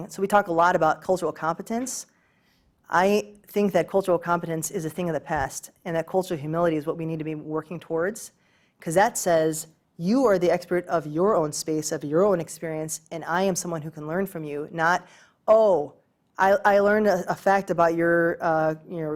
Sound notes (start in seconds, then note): none